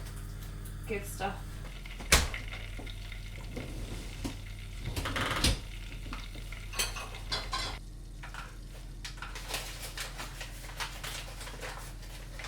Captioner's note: sound of pan simmering and stirring